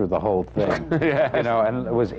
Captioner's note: laughs